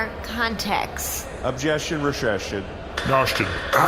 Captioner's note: banging gavel